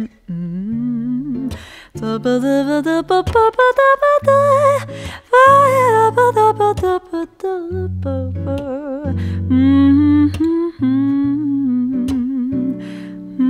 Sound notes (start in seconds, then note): 2.2 humming